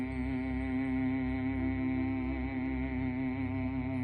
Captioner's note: chants